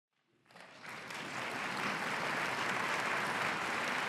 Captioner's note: audience clapping